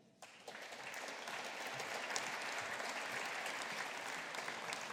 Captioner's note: audience applauding